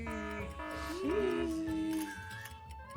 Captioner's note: alarm rings